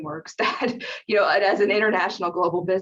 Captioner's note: laughs